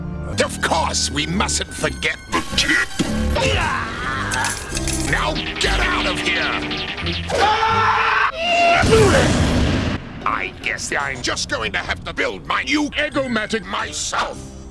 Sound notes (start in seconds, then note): 2.2 distorted and pitched down; 7.3 screaming